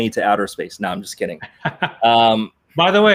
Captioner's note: laughs